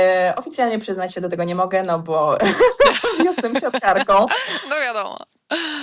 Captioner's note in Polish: śmiech